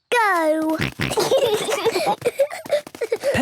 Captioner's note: snorting, giggling